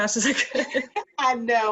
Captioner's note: laughs